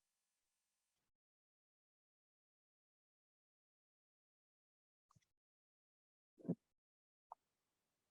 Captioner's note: silence